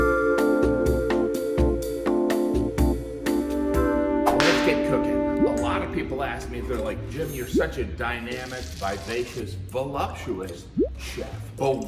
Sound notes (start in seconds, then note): 4.3 whip cracking